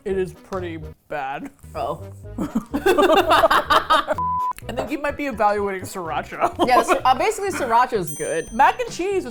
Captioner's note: both laugh